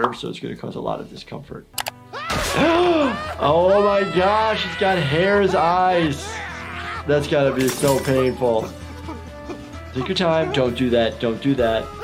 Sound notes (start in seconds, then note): 2.1 Cuddles screaming